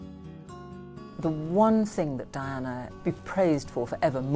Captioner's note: voiceover